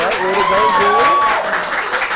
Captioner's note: applause